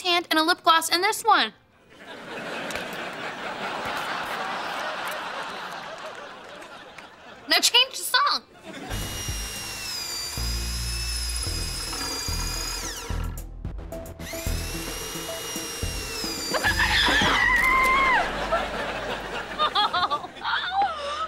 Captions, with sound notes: and a lip gloss in this one. Now change the song. [drilling] [drilling] [screaming] [laughing]